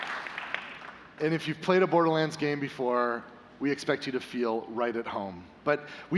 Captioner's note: applause